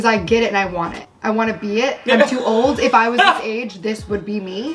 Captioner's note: laughter